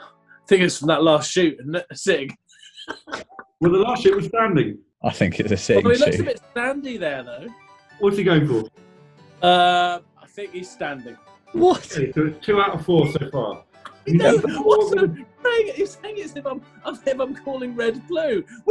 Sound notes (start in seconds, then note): 2.5 laughing